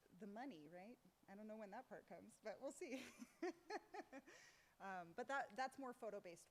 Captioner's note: laughs